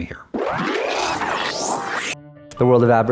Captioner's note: sped up electronic sound